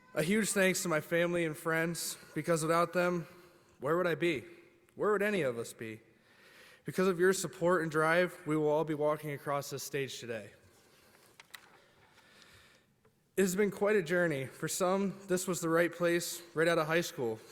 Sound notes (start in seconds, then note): none